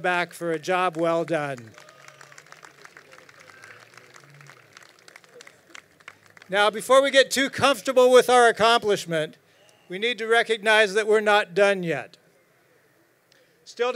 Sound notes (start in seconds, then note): 2.1 crowd applauding